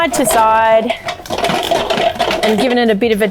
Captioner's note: utensils rattling